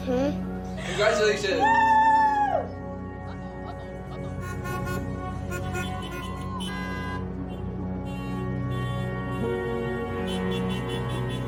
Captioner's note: car horns honking